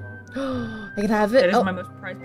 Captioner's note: gasp